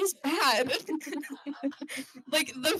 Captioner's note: crowd Laughter